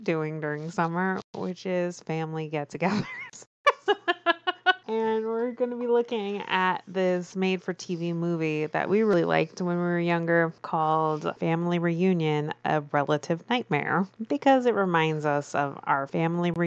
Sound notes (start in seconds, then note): 3.7 laughs